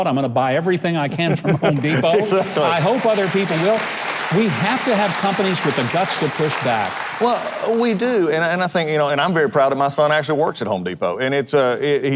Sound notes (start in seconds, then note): 1.6 laughs; 3.8 applause overlapping